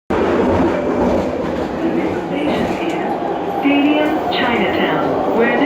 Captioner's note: Skytrain Ding Chime